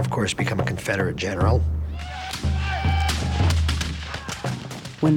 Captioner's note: gunfire